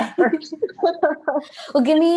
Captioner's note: laughter